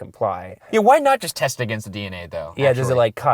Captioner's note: voiceover